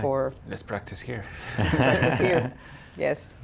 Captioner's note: laughter